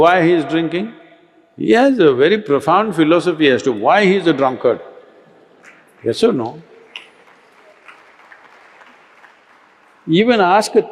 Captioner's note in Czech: Potlesk